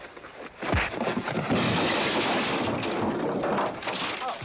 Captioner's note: wham; thud; big crash